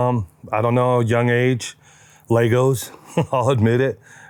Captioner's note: chuckles